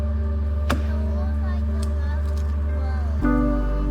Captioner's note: pensive music continues; tool banging